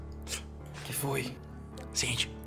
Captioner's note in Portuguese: sussurrando